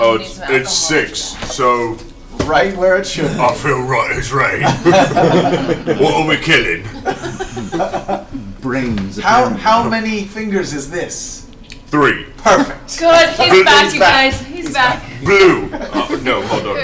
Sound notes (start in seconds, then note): 6.8 all laugh